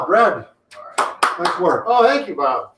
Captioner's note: clapping hands